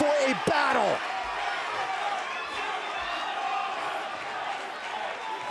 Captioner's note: crowd chattering